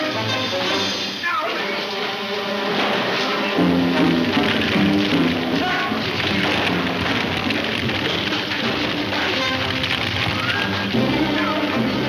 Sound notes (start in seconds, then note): 2.7 dramatic music; 5.6 man shouts; 6.6 dramatic music